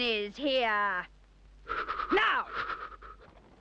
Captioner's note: Edmund shivers